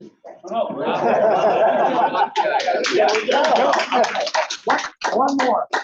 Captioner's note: group laughs and applauds